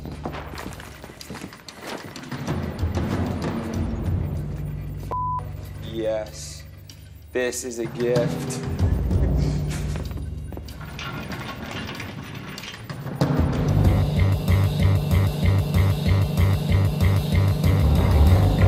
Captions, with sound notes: (beeps) yes. This is a gift.